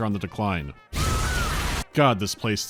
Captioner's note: boosh